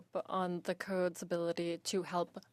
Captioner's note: speaking in French